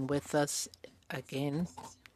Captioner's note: speaking French